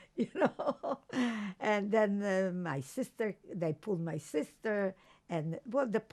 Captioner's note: laughing